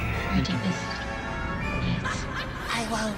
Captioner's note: spooky female laughter